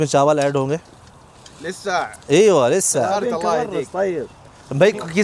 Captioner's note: Arabic